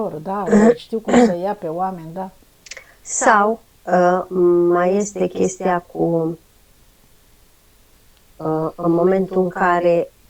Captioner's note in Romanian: voce dreasă